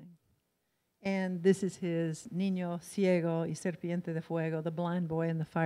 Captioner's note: in foreign language